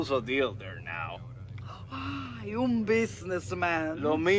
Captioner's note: in Spanish